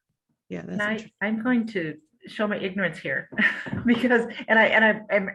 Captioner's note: chuckle